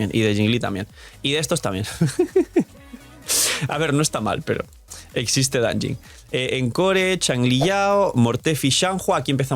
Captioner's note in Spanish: risas